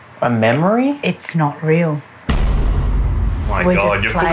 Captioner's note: bang